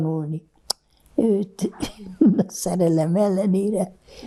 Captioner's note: laughing